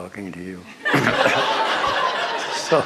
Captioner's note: laughter